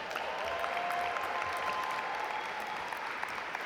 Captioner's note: audience applaud